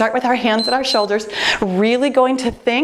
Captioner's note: timer beeps